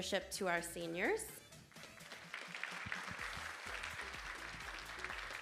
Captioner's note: audience applauding